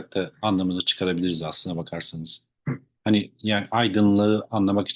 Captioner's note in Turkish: boğazını temizler